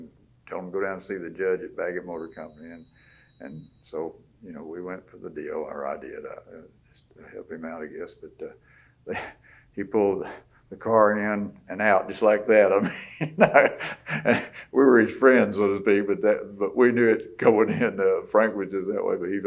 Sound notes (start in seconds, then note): 12.8 laughs